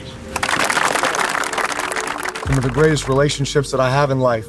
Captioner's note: team applauding